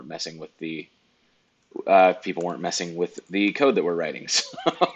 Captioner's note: laughs